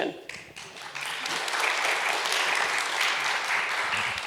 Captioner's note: applause